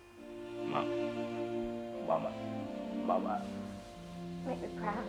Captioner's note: crying